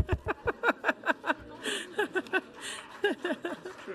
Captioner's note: woman laughing